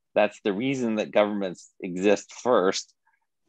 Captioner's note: none